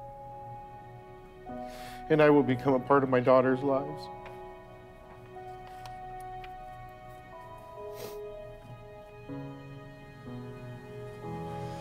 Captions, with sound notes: "and I will become a part of my daughters' lives." (crying)